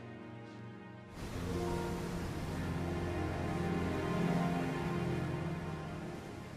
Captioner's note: waves splashing